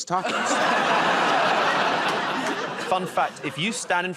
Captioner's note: laughter